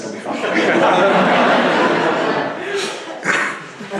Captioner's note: laughter